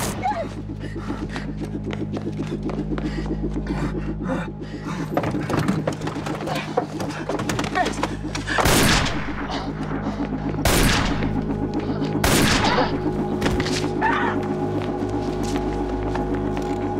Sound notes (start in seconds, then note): 0.0 gunshots; 0.1 yelps; 0.6 rapid footsteps; 3.7 gasping; 8.6 gunshot; 10.6 gunshot